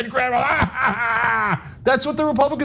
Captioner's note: laugh